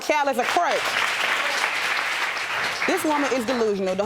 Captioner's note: audience applauds